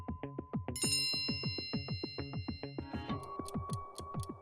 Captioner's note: bell dings; phone chimes; clock ticking